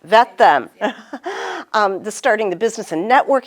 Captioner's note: laughing